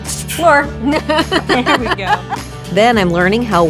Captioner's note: laughing